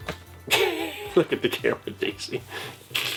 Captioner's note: laughing